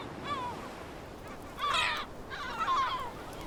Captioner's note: gulls cawing